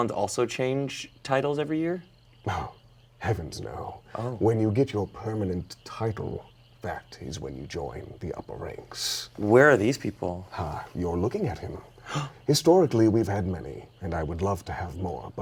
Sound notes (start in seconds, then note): 12.0 gasps